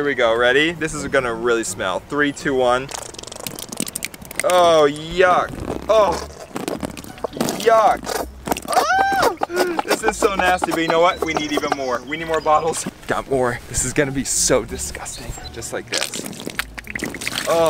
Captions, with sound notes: You ready, this is gonna really smell. Three, two, one. (mustard squirting) Oh, yuck, oh. Yuck. (yelling) This is so nasty, but you know what? We need even more. We need more bottles. Got more, this is gonna be so disgusting. Just like this. (ketchup squirting)